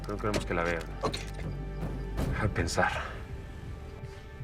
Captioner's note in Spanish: none